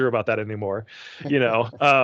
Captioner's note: chuckling